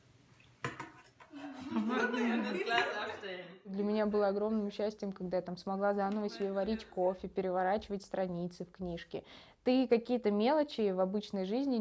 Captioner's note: speaking russian